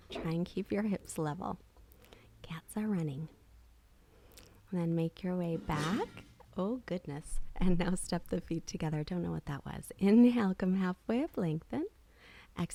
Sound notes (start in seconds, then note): 5.9 crash in the background